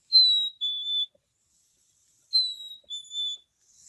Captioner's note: bird whistling